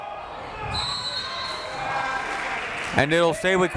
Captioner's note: whistle tweeting